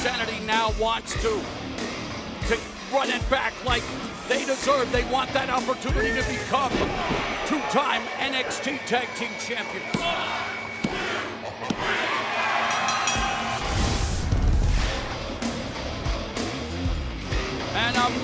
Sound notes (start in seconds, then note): 10.2 crowd cheering; 12.6 bell ringing